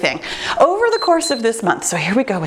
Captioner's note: timer beeps